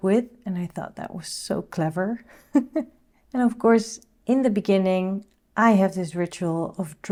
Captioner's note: laughing